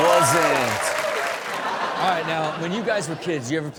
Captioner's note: crowd applaud and cheer; crowd laugh